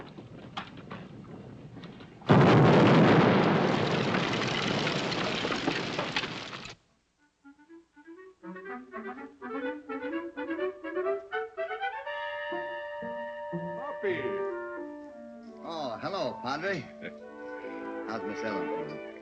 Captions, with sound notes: [ EXPLOSION ] [ CHEERFUL MUSIC ] Hoppy! Oh, hello, Padre. How is Miss Ellen?